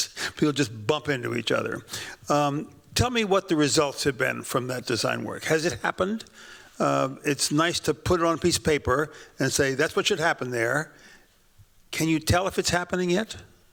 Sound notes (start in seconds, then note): none